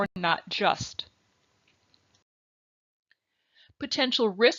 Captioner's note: silence